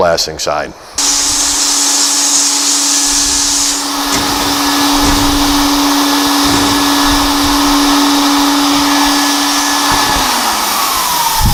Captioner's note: sandblasting Sound